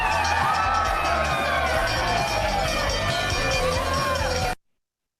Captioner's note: bell ringing; crowd cheers